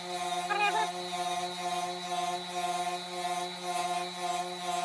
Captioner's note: whirring